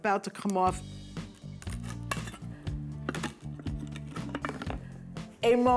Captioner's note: dough falls off